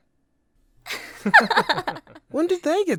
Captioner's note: laughing